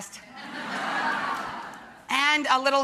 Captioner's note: audience laughs